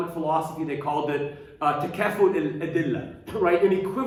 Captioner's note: speaking arabic